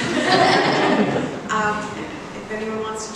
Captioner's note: laughs